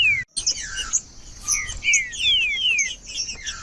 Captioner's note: trinca ferro cantando